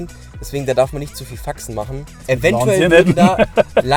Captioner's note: laughing